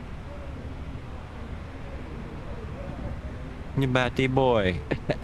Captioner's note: laughter